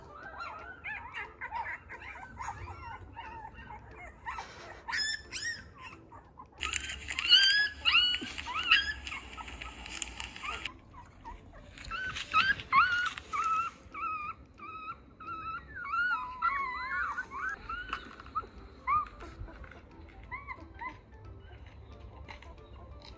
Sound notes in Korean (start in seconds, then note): 3.7 새끼 강아지 소리를 틀어봤어요